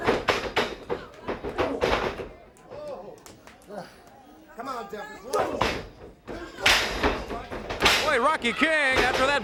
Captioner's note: crowd chatter